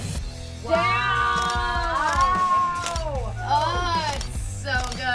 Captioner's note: cameras clicking